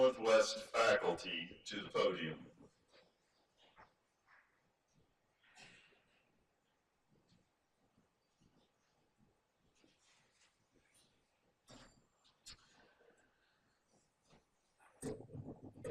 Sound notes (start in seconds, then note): 2.8 silence